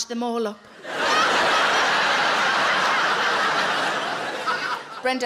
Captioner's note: audience laughing